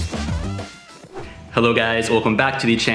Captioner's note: air whooshing